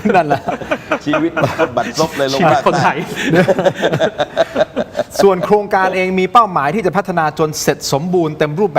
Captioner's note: laughs